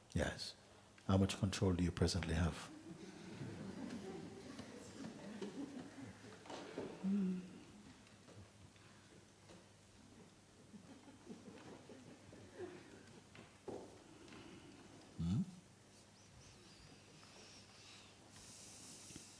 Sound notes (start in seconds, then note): 2.7 audience murmuring; 6.7 silence